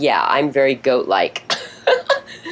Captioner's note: laughs